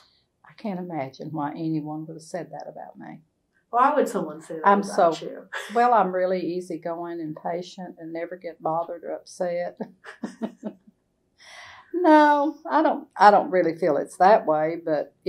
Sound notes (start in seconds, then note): 5.4 laughs; 10.0 laughter